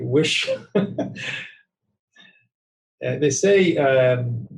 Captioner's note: laughing